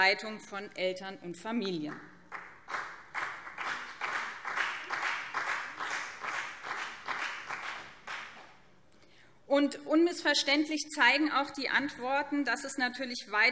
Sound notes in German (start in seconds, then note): 2.2 Beifall BÜNDNIS 90/DIE GRÜNEN und CDU